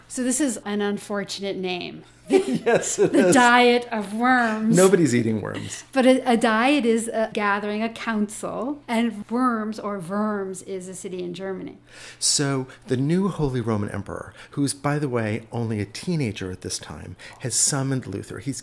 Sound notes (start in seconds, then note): 2.2 laughter